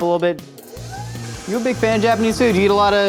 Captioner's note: mixer whizzing